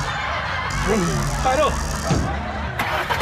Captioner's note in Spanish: Motor enciende